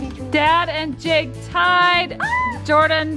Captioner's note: yelling